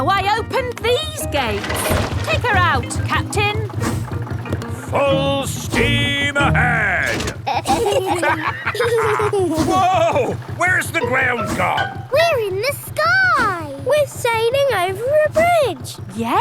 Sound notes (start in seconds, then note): 7.0 lever clangs; 7.3 kids and captain dog laughing